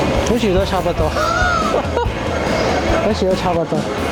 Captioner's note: laughter